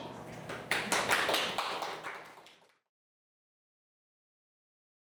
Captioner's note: audience applauding